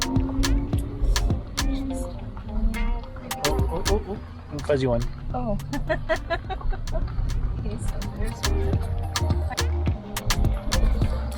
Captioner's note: laughing